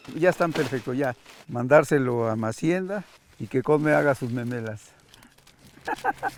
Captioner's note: speaking in foreign language